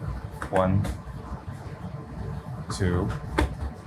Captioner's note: hand thuds